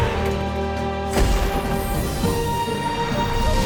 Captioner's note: electric crackling